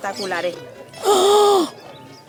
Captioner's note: gasp